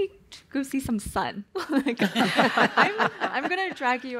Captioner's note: laughter